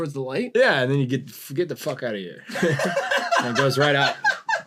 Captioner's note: laughter